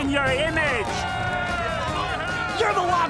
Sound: cheering

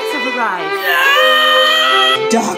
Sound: grunting

